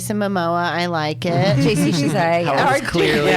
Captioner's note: laughs